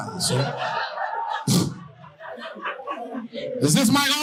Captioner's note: audience laughing